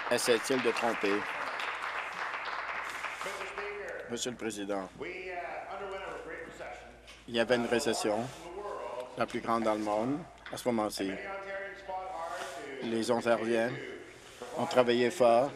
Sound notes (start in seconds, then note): 4.4 applause